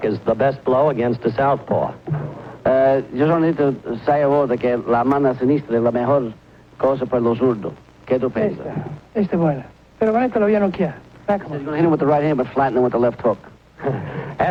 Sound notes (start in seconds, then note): 3.1 speaks in Spanish; 8.8 speaks in Spanish